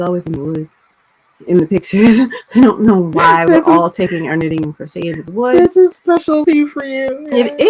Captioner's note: laughter